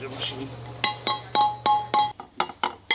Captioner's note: metal clanking